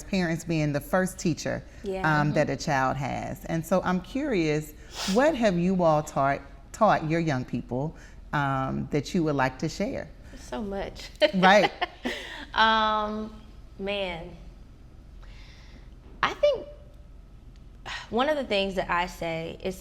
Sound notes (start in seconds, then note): 11.2 laughing